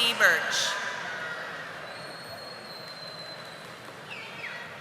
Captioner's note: audience applauding